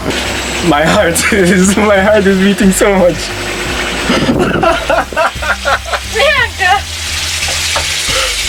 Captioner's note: laughing nervously